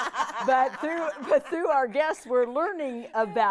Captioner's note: laughing